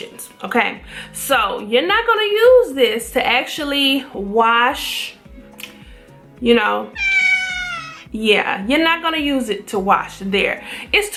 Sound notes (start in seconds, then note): 6.9 meow